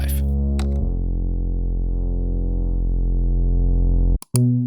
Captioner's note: mouse clicking